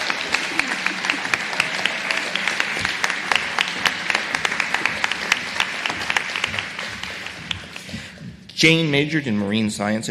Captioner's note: applause